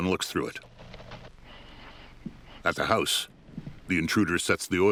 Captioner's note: heavy breathing